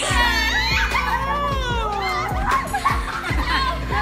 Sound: laughing

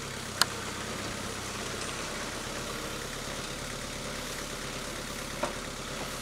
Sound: telehandler engine droning

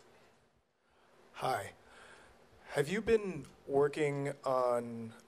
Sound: voiceover

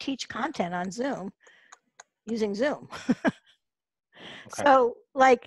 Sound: laughs

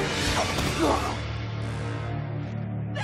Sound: grunting

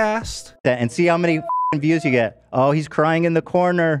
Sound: beep

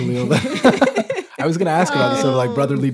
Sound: laughing

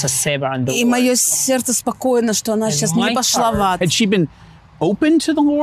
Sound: speaking in foreign language

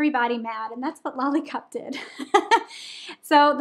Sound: laughing

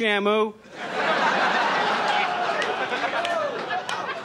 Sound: audience laughs

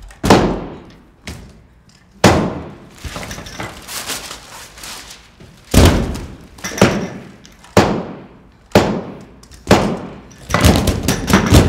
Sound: thumping

